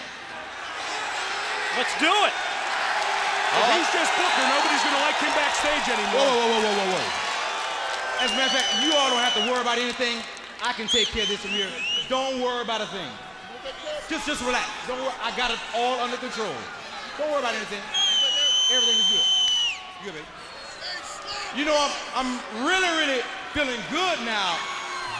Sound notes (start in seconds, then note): 3.4 crowd chatter; 4.1 crowd cheering